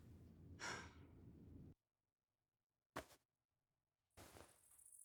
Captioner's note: Elizabeth sighing